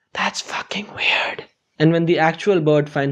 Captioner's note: whispering